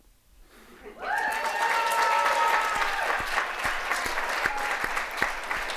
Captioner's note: audience applauding